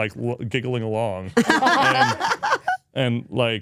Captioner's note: speakers laugh